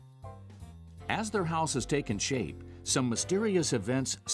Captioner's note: voiceover